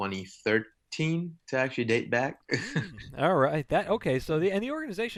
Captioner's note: laughs